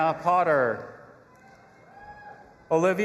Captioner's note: audience applauding and cheering